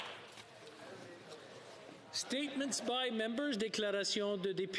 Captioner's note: applause